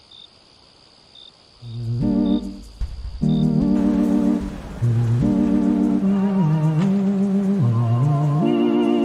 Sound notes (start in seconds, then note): 0.0 crickets and white noise; 2.9 ghoulish music fading in; 3.8 morning, outside, sounds of traffic and people